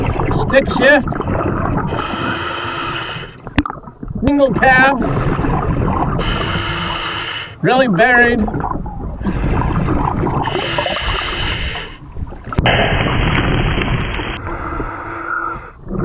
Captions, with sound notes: Stick shift. (water burbling) (regulator hissing) Single cab. Really buried. (water burbling) (regulator hissing)